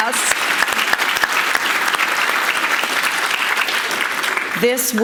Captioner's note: audience applauding